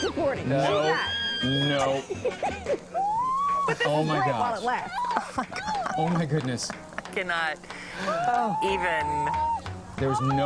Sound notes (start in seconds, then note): 8.0 screaming